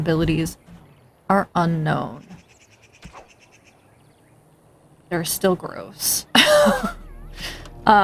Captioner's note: laughs